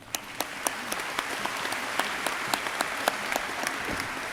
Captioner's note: crowd applauding